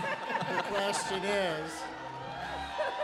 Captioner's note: laughter